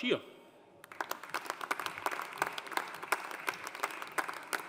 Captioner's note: audience applauding